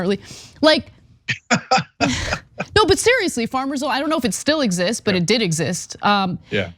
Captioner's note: laugh